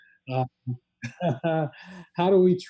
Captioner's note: laughs